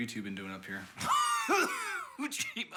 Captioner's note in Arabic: السعال